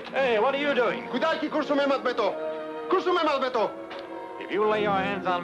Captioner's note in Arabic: الرجل يتكلم بلغة أجنبية